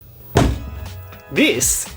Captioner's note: thunk